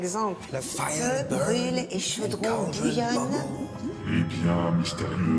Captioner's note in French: disent des incantations